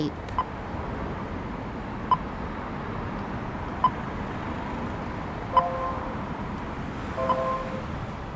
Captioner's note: beeping noise from traffic pedestrian indicator blends into musical motif